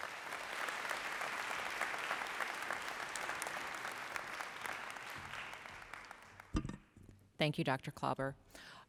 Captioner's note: applause